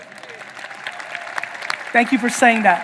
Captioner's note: audience applauding